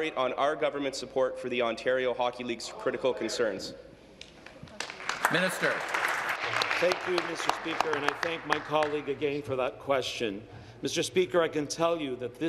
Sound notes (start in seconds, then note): 7.6 applause